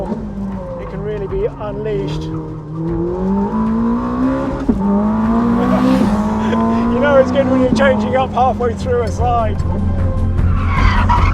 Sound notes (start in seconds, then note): 3.2 engine rumbles; 5.5 laughs